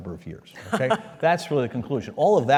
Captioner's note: laugh